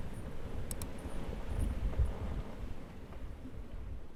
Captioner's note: mouse clicks